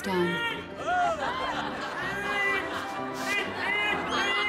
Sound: squawking and yelping; laughter

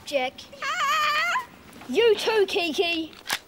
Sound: squawks

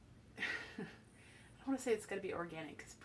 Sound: laughs

